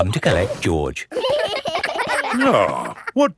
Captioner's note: giggling